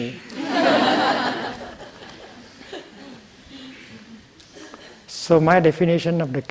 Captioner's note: laughter